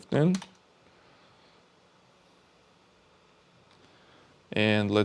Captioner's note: keyboard clicking